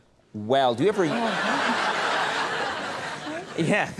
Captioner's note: audience laughing